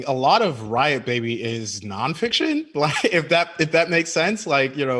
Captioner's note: chuckles